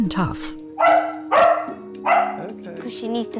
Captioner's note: dog barking